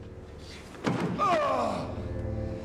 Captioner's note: groans